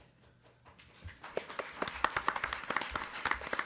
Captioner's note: applause